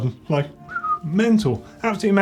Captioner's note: whistling